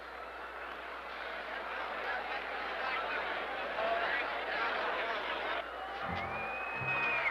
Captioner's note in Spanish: murmullos del púplico